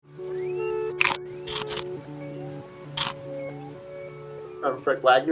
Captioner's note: teeth biting